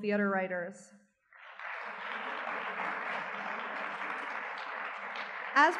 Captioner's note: audience clapping